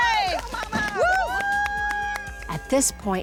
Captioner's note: cheering